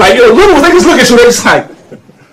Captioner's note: audio screeches; laughter